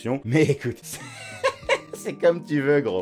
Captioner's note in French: rires